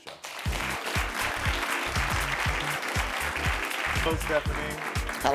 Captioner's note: audience applauding